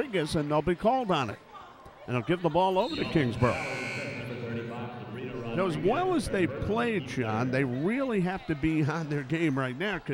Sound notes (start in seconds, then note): none